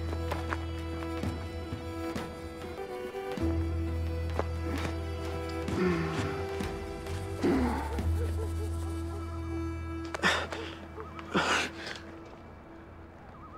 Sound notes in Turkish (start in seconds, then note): 5.6 Adam İnliyor; 10.1 Adam İnliyor